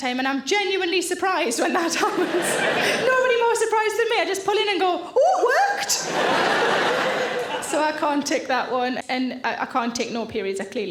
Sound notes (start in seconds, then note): 1.8 audience laughing; 5.9 audience laughing